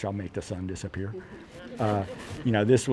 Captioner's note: laughter